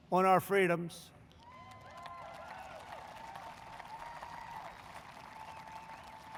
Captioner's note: applause